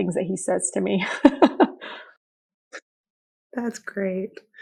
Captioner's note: laughing